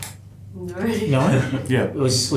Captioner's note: woman laughing